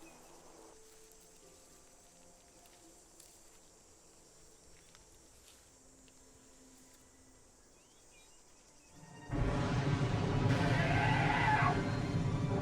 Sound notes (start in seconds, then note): 9.3 thunder; 10.5 roars